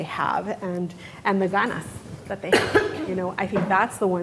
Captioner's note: speaking in foreign language